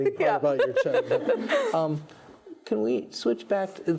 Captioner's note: laughs